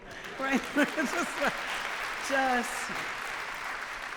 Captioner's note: applause